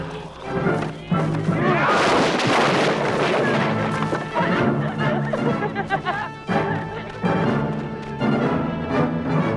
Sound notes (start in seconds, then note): 2.2 posts clatter; 4.4 both laughing